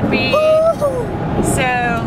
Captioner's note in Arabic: الهتاف